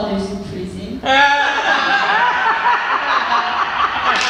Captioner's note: laughter